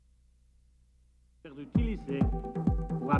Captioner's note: speaking French; speaking Spanish